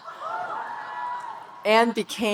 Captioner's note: audience cheering